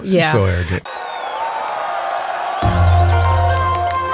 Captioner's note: audience cheering; energetic music